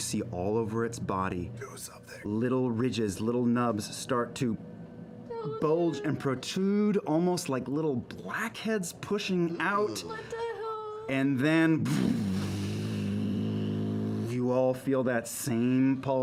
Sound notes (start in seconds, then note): 11.8 deep humming